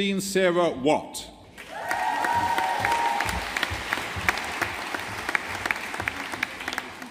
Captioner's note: audience applauding